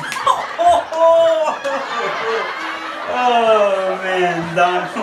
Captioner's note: laughing